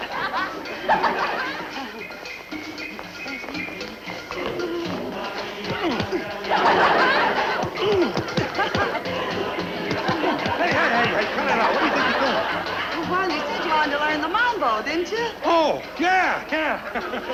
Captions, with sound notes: (punching stomach) - Hey, hey, cut it out, what do you think you're doing? - Well you want to learn the Mambo, didn't cha. - Oh, yeah, yeah.